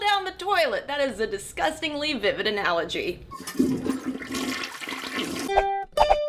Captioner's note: toilet flushing